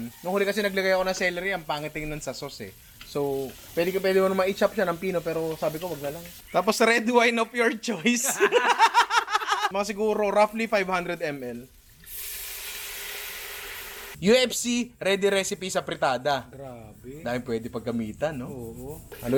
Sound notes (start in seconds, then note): 8.0 laughter